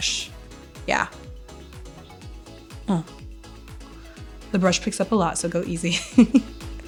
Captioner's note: laughing